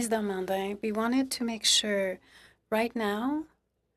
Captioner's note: speaking French